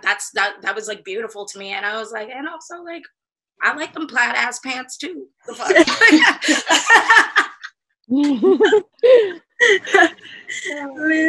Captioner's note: laughter